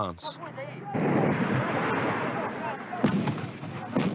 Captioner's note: explosions